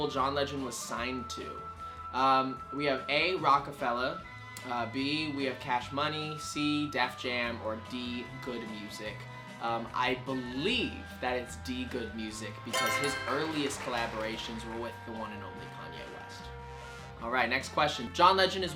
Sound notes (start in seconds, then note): 12.7 answer board chimes; 12.7 crowd claps